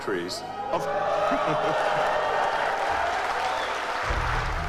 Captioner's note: audience cheering